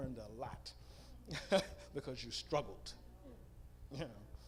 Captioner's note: laughs